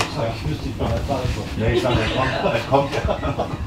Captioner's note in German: Gespräch und Lachen im anderen Raum